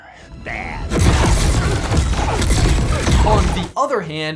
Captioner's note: dramatic music; laser shooting